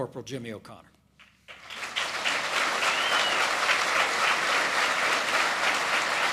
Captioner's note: applause